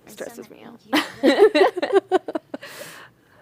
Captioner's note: laughter